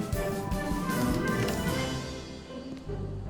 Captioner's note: door opens